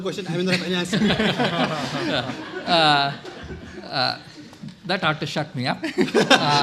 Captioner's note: laughter